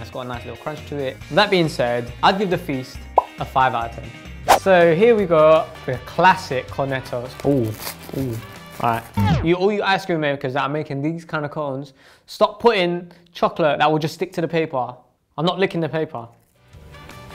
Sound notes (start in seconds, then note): 7.2 wrapper tearing; 16.8 fun music playing